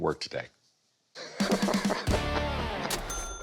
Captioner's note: laughs